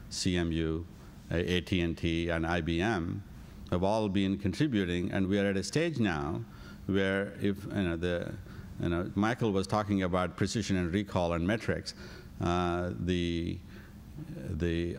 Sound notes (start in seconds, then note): none